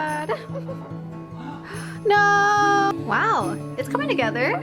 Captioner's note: gasp